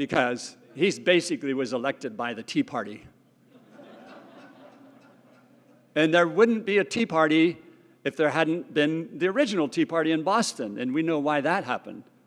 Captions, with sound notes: Because he basically was elected by the Tea Party. >> [LAUGH] >> And there wouldn't be a Tea Party if there hadn't been the original tea party in Boston and we know why that happened.